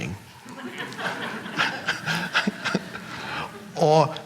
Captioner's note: audience laughing; Eckhart laughing